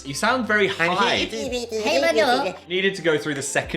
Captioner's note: both jabber